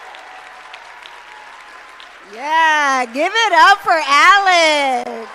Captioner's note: applause